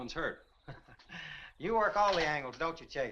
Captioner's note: Compton chuckles